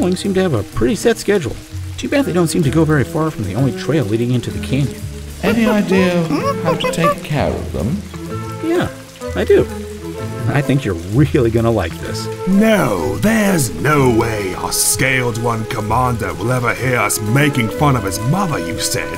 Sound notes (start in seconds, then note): 5.4 ape noises